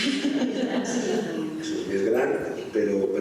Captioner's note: laughs